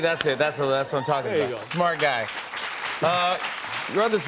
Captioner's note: applause